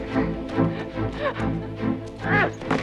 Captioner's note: Hundra chuckles; guard grunts